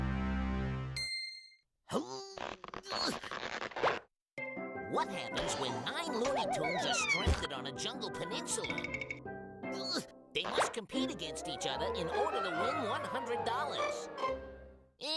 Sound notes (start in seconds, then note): 2.2 grunting; 9.2 groaning